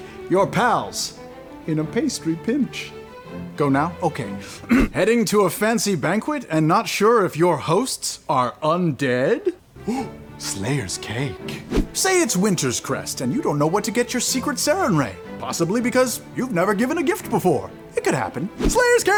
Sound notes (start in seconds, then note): 4.6 clears throat; 9.8 gasps